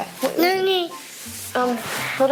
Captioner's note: murmuring